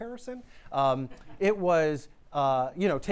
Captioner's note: laughter